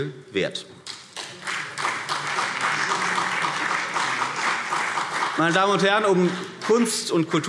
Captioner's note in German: Beifall CDU und BÜNDNIS 90/DIE GRÜNEN